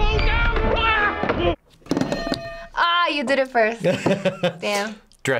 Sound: yells; bells ring; laughs

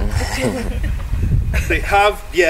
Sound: guests laughing

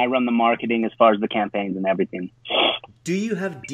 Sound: sniffles

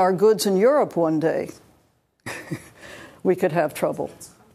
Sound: laughs

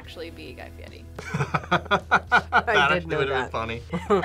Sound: both laugh

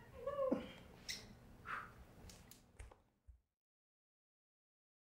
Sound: lips smacking and blowing

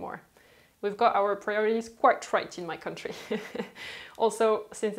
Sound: chuckles

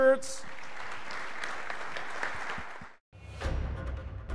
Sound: audience applauding

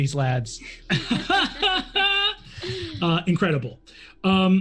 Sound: group laughs

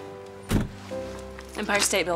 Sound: door closes

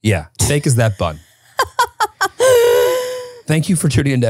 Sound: laughing

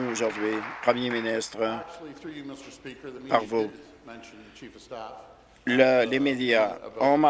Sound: applause

